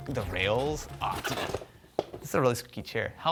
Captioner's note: chair squeaking